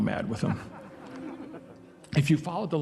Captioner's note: audience laughing